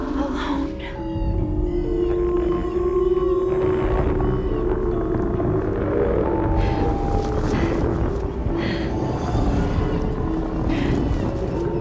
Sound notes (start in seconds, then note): 1.4 le tonnerre gronde